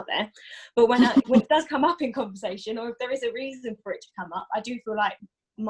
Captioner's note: laughs